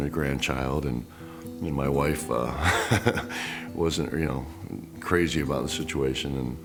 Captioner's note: laugh